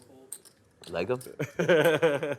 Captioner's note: voiceover